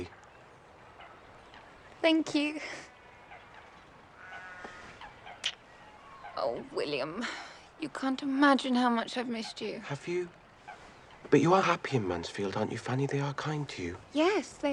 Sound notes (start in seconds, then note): 4.7 sighs